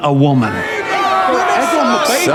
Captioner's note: Flea Bottom crowd jeers